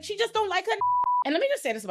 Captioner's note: beep